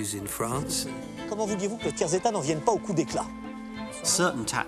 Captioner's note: men speaking in French